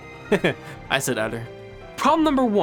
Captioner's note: giggle